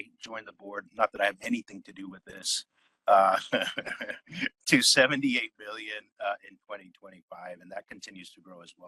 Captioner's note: laugh